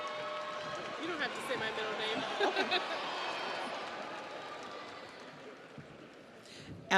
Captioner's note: audience cheers; audience applauds